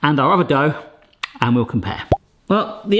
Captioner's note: smacks lips